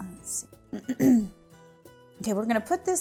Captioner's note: clearing throat